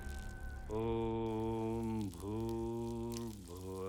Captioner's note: humming